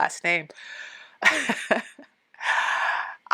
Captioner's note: laughing